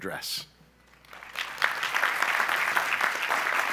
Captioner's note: applause